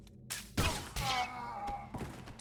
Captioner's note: gunshots